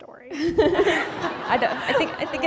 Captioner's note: laughter